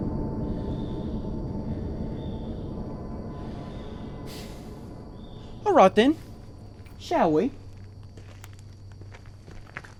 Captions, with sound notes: (sighing) All right then, shall we?